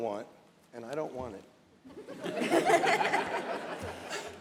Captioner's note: laughter